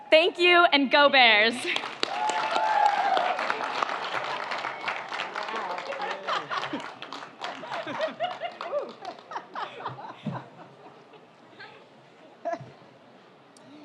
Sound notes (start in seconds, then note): 1.6 audience applauds; 5.9 laughs